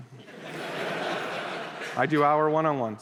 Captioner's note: laughter